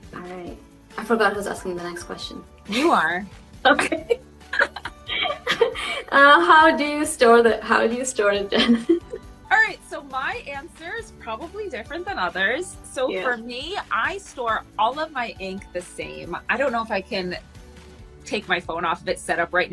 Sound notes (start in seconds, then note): 4.4 both laughing; 8.7 laughs